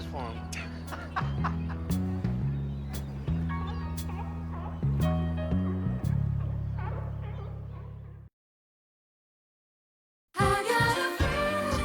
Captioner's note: Bridges laughing